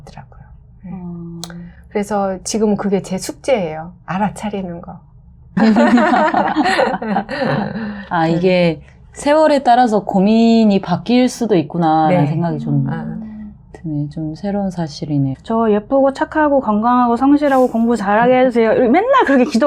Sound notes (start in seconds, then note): 5.6 laughter